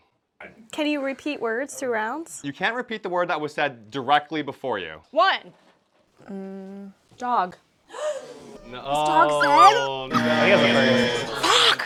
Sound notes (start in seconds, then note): 7.9 gasps; 8.6 buzzer